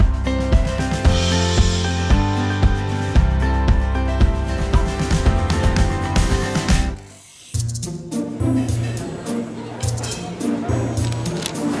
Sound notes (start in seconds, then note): 0.1 upbeat music; 5.5 pen scratches; 8.7 mischievous music